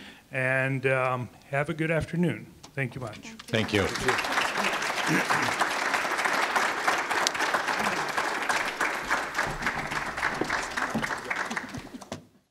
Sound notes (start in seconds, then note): 3.4 applause